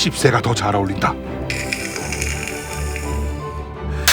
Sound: exclaiming

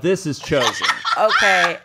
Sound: laughs

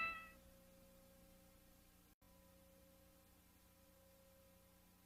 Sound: VHS static

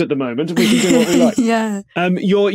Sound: giggles

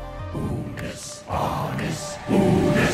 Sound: crowd; clock ticking

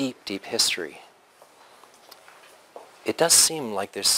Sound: pause

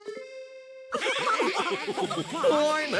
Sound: all laugh

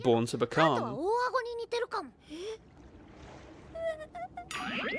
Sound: Light speaking in foreign language; Heart sobbing

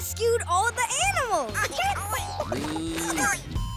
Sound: animals cheering

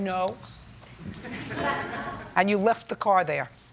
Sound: laughter

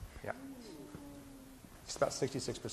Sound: groaning

